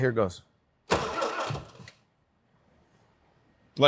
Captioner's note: engine turns